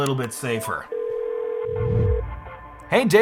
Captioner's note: phone rings